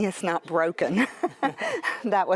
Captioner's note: all laugh